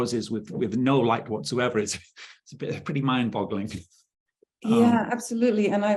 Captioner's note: chuckling